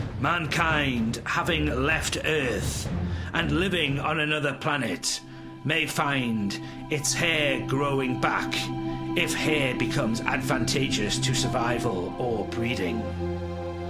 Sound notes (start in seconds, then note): 5.2 euphoric sounds play